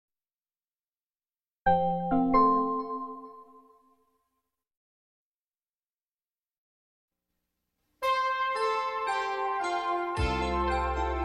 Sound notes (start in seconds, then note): 0.0 silence; 4.2 silence; 8.1 analog synthesizer music playing